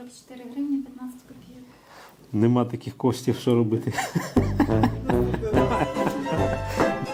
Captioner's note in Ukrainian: сміх